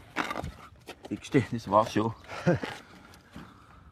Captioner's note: laughter